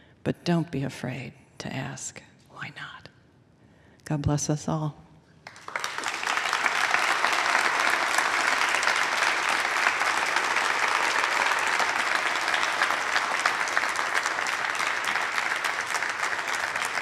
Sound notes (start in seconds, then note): 5.4 applause